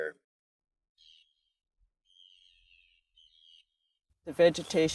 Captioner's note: birds chirping